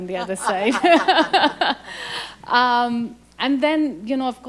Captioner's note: both laugh